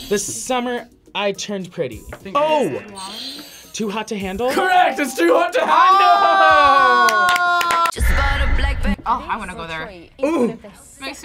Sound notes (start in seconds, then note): 2.5 buzzer; 2.9 buzzer rings